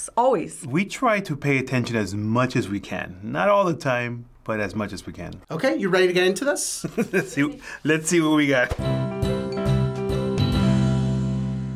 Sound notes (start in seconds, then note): 6.8 chuckles; 8.7 playful intro